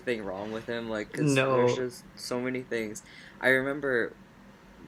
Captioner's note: laughs